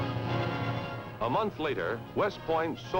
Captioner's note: male Voice